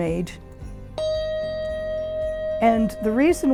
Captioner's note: handbell dinging